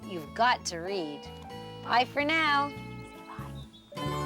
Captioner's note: whispering